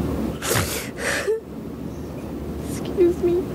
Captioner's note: cries